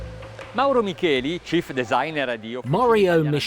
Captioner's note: speaking in foreign language